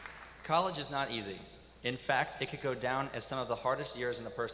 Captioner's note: applause